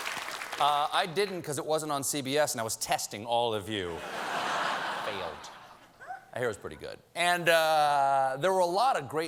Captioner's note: cheers and applause